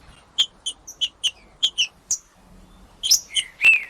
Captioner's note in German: trinca ferro cantando